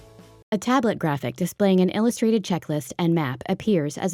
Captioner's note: voiceover